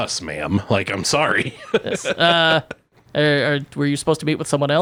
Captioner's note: laughing